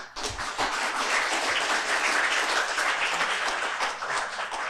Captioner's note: audience clapping